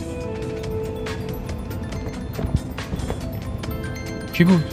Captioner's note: mobile ringing